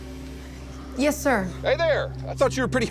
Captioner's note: on phone